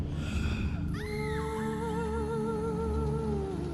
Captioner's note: woman screaming in distance